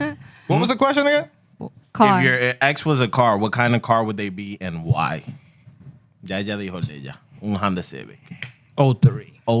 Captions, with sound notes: What was the question again? Car. If your ex was a car, what kind of car would they be and why? (Speaking Spanish) O3.